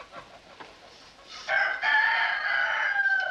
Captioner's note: rooster Crows